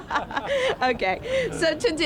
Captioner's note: laughter